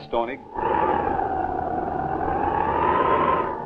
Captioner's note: wind howling